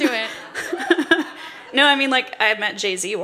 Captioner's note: laughter